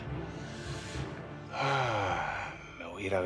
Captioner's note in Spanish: suspiros